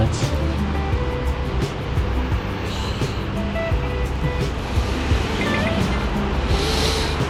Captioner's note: wind Blowing